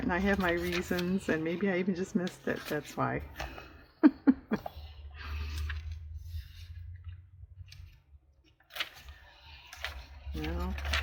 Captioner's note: laughs